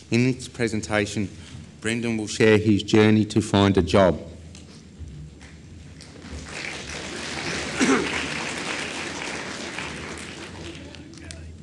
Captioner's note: clapping